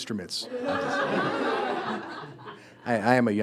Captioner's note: students laughing